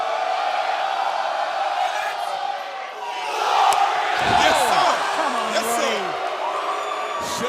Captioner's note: crowd response